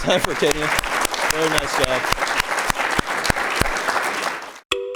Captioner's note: clapping